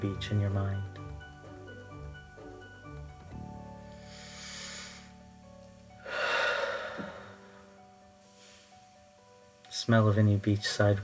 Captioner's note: inhales deeply